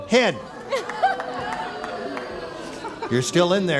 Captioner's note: audience booing